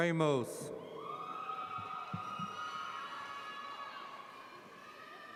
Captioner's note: audience cheers